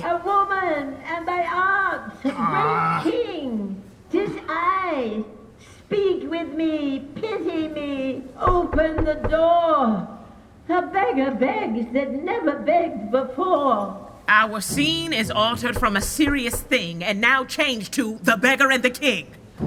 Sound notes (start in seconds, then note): 8.4 knocking on door